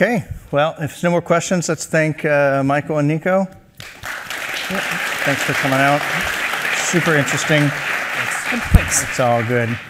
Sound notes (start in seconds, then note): 3.8 applause